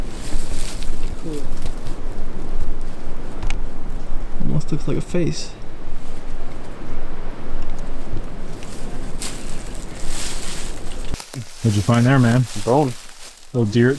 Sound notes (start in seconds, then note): 9.5 leaves rustling